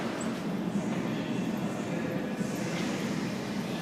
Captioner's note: closing doors